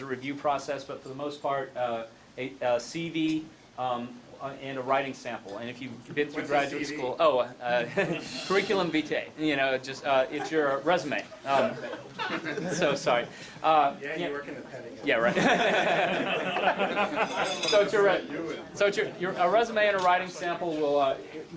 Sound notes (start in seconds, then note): 7.8 laughs; 11.5 laughing; 15.2 laughing